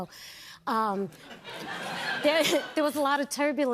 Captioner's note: laughter